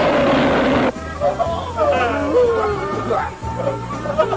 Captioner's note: sounds of pain from injured engines and others